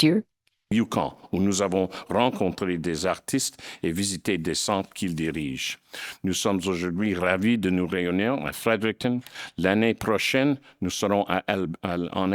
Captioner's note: speaking in French